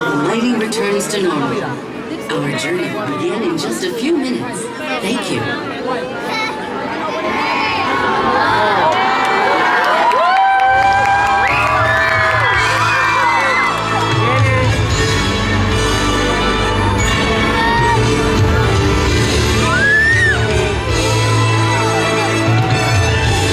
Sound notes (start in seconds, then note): 7.0 audience counts down, cheers